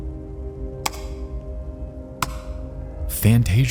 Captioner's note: keyboard clicking sound